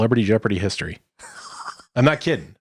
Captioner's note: laughing